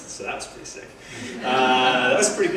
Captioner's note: laugh